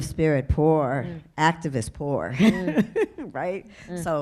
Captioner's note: laughs